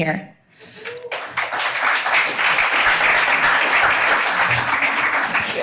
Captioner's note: audience applauding